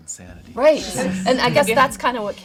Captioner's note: all laughing